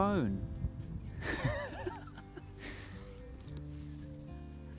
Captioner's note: laughs